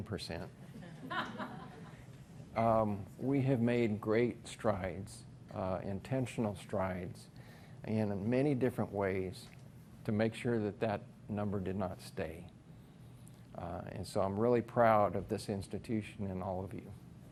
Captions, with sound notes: (audience laughs) We have made great strides, intentional strides, and in many different ways to make sure that that number did not stay. And so I'm really proud of this institution and all of you.